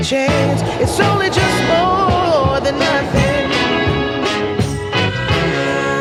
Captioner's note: lift whirring